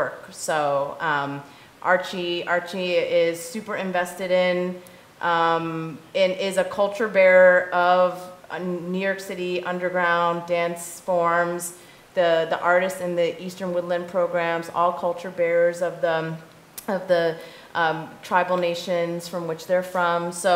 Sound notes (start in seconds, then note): none